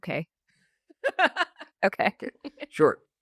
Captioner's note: laughs